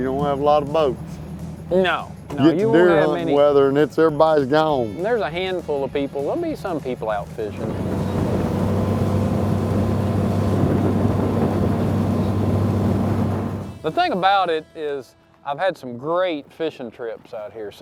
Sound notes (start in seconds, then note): 3.4 chattering; 8.1 boat engine humming